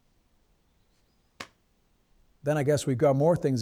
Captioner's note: hand slapping